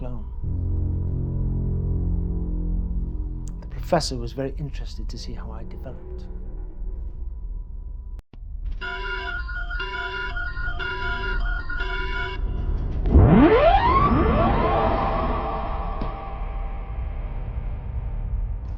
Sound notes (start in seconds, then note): 0.0 chilling tone; 7.1 device beeping and buzzing; 7.1 intense music; 12.1 device alarm blaring; 15.5 intense music